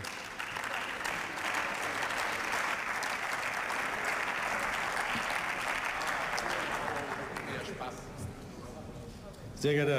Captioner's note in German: Beifall